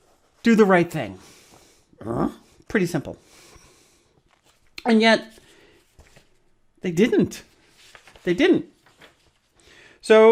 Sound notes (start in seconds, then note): 2.0 grunts; 7.3 rustles papers